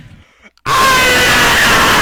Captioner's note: screams!